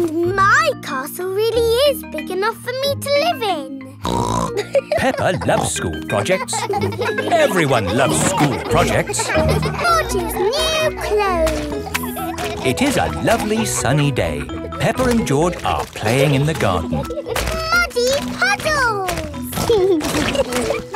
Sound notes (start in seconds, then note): 4.1 snorts and laughs; 7.0 children laughing